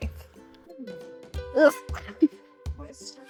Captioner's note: grunts; laughs